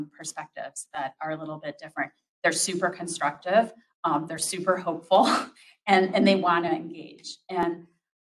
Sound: laughs

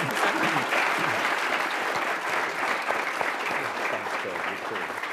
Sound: attendees applauding

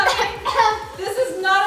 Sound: coughing

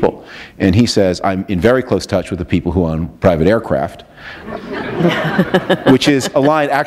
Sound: laughter

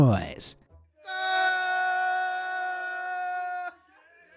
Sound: group shouting

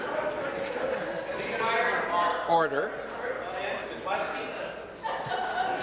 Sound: conversation din

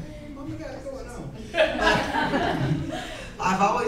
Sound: laughter

